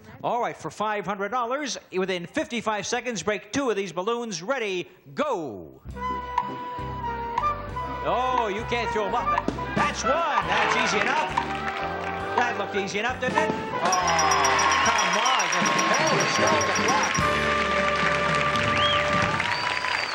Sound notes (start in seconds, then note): 6.3 upbeat music; 10.3 audience cheers; 13.8 bell ringing; 17.2 audience cheers